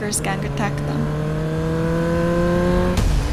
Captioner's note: engine roaring